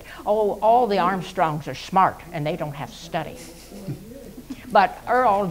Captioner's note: laughs